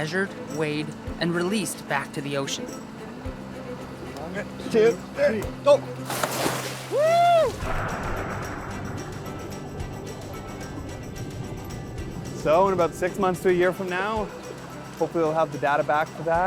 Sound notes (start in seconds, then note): 6.9 cheers and clapping